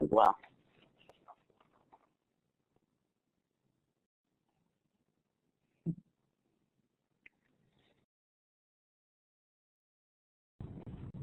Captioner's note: silence